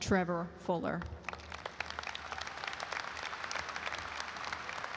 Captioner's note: audience applauds